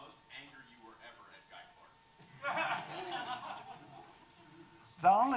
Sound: audience laughing

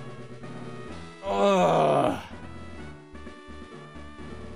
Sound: groan

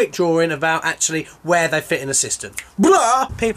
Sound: snaps

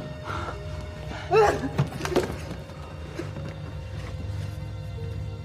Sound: sighs; sobs

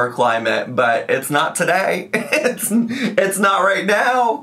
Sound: laughs

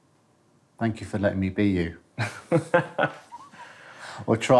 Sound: laughs

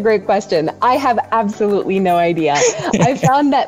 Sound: laughs

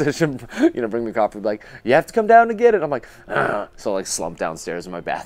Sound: grunt

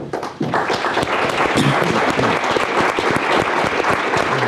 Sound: audience applauds

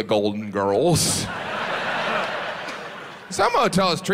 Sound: audience laughs

